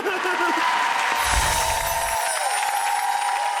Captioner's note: laughing and clapping; bells chiming; audience cheering and clapping